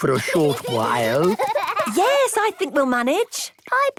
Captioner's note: both giggle